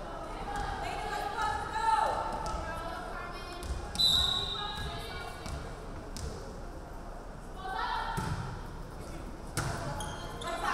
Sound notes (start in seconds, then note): 4.0 referee whistling